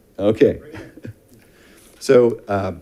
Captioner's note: chuckles